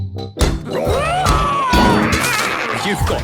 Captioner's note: all roaring